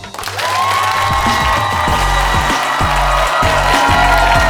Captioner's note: audience applauds